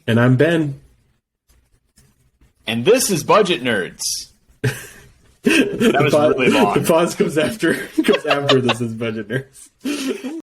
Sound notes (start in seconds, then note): 5.4 laughs